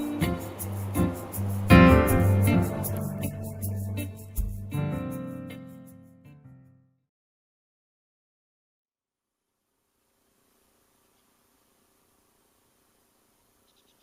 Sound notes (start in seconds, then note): 10.3 bugs buzzing